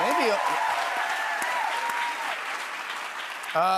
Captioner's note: cheers and applause